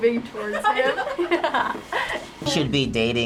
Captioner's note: laughs